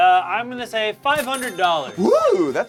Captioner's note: loud dinging